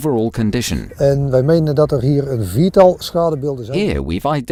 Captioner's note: Dutch language